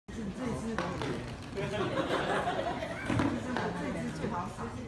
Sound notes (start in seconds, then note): 1.6 audience are laughing